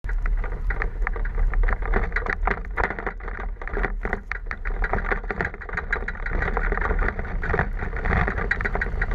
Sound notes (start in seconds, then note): 0.9 rattling